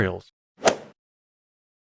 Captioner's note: golf ball hit sound